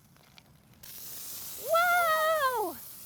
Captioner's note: loud fizzing